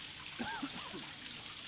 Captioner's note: uncomfortable cough